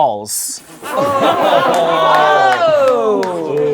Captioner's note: laughing